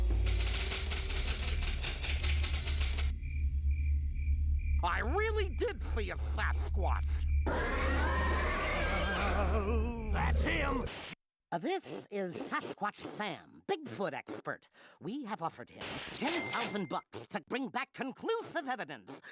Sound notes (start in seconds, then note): 7.4 growling